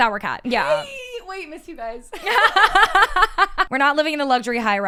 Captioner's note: laugh